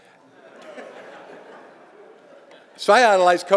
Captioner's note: audience giggling